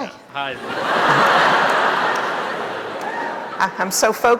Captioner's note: audience laughing